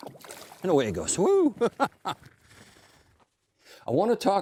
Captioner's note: laughs